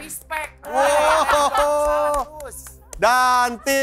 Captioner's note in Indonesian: laugh